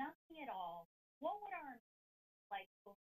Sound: audio cuts

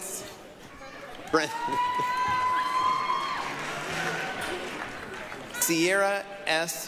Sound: applause, cheering

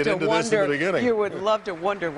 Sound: applause

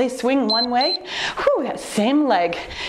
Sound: timer beeps

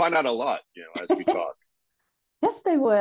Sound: laughing

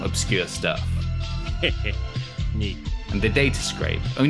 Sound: laughs

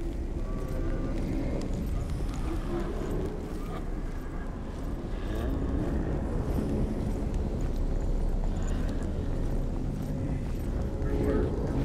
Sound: distorted, menacing growling and rumbling

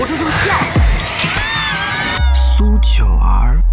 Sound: screaming

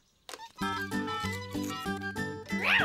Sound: squeaking

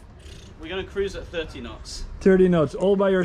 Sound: blows raspberry

